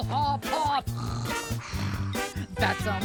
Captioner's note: snore snore